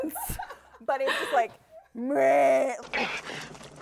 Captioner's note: groaning; groans